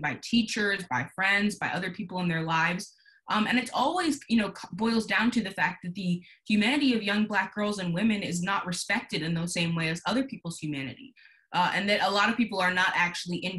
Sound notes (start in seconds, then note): none